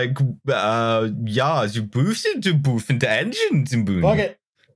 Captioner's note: comically Dutch voice